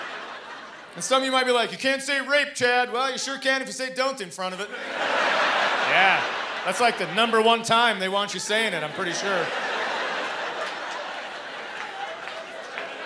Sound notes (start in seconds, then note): 8.5 laughter